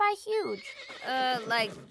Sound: whinny

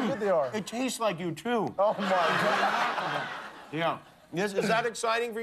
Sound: laughter

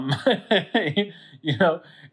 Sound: instructor laughs

